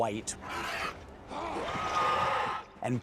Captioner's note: snarls